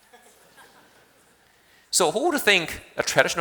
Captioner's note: audience laughing